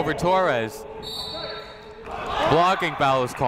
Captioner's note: whistle blows